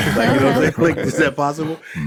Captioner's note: all laughing